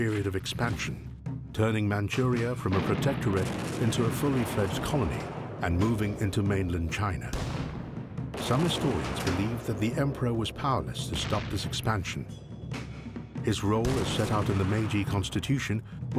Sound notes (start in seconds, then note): 7.7 guns booming